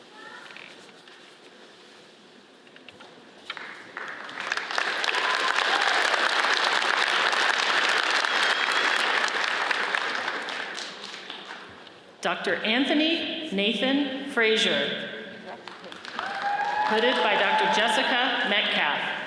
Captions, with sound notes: (audience applauds) Dr. Anthony Nathan Frazier (audience cheers) hooded by Dr. Jessica Metcalf.